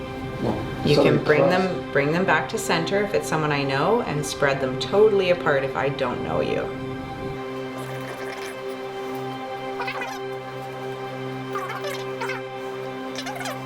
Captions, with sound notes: You can bring them- - It's starting to cross. - Bring them back to center, if it's someone I know, and spread them totally apart, if I don't know you. (recorder whirring) (soft eerie music)